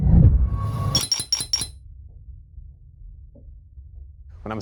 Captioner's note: gold clinking